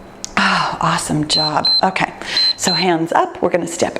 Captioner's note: timer beeps